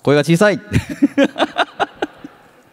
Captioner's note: laughs